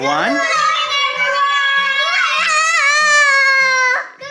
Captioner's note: kids shouting